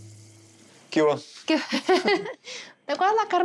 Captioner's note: both laugh